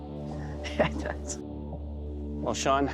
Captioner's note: laughs